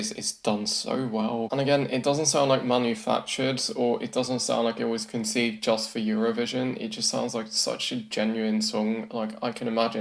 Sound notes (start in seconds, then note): none